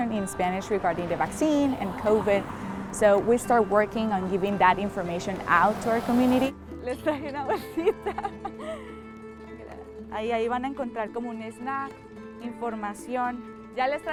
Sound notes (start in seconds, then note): 7.6 laughs; 10.3 speaks in Spanish